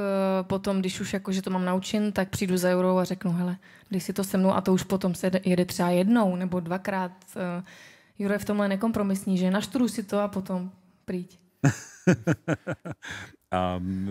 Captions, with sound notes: and then, when I'm ready, I'll come to Juraj and say: "Let's play together!" and then we play it once, twice Juraj is uncompromising in this. He says, "Study it and then come!" (Laughter)